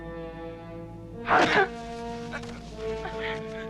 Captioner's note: Pateray groans; knife stabs